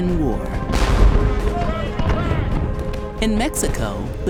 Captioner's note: sounds of battlefield